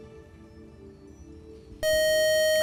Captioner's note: buzzer